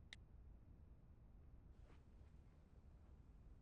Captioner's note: none